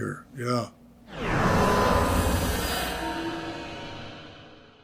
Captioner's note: loud energetic noises